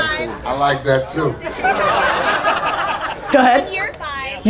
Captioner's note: audience laughter